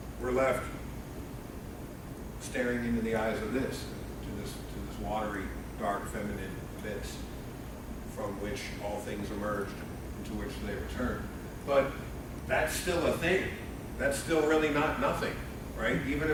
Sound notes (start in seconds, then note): none